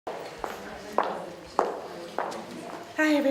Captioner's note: sound of footsteps on the stage